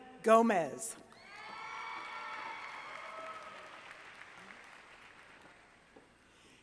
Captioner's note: applause